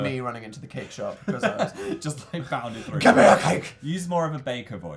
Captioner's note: laughs